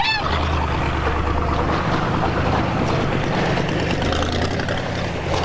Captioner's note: car engine revving